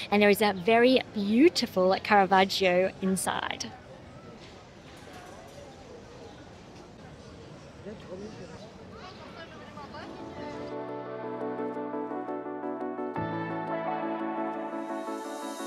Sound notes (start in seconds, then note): 5.8 crowd chattering